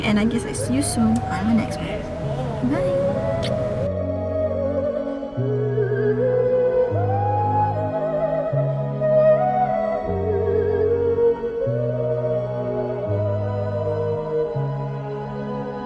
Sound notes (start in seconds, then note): 2.9 blowing kisses